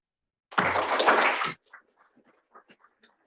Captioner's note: applause